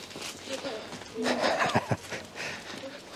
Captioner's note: laughs